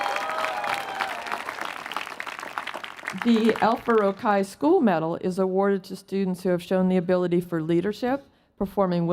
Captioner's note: applause